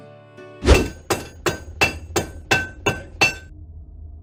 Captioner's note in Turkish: Çekiç Sesi